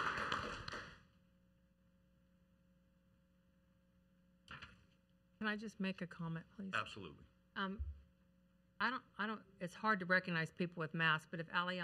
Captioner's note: applause